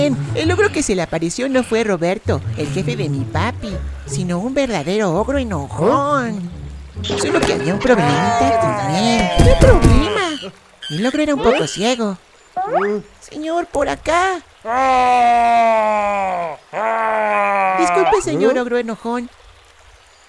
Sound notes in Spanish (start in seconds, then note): 14.7 Gruñido